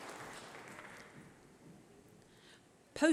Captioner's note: applause